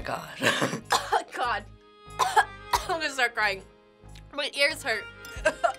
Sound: coughs; laughs

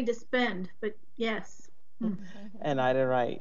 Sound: members chuckling

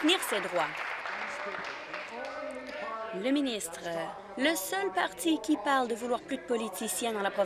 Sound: applause

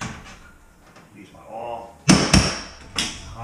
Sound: hammers

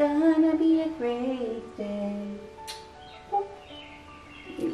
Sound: singing; kisses

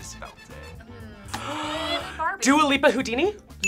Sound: gasps

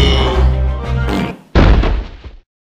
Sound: fart; thud

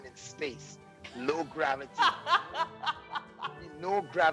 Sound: laughs

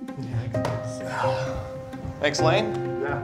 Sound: light playful music; exhales sharply

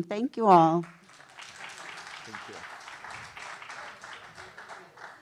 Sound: audience applauding

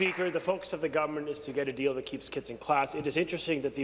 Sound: applause

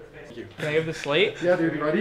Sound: faintly speaking

